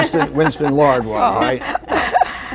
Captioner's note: laughter